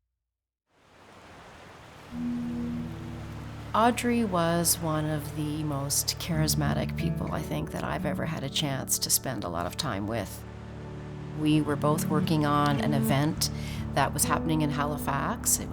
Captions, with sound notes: (water rippling) (boat horn blows) - Audrey was one of the most charismatic people I think that I've ever had a chance to spend a lot of time with. We were both working on an event that was happening in Halifax.